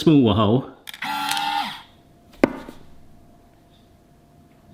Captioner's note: machine whirring